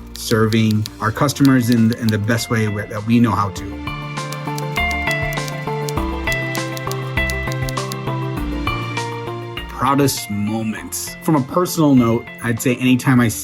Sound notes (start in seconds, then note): 4.3 typing sounds